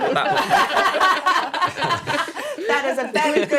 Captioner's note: laughing